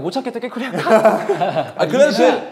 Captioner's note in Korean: 웃음